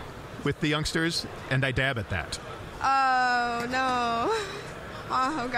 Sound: laughing

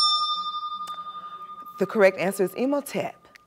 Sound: bell rings, time expires

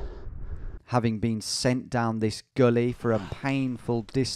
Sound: voiceover

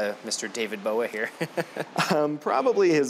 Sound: laughing

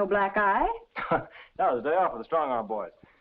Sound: laughs

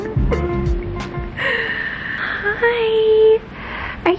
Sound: laughing

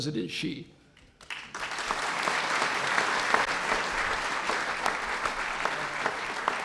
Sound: applause

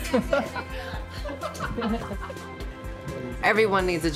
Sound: laughter

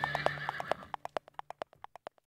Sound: horse neighing

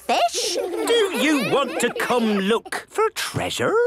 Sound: children giggling

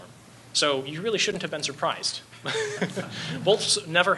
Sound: laughs

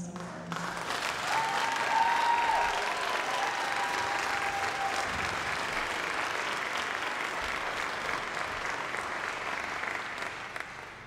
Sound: applause

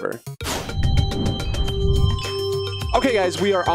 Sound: impact sound effects

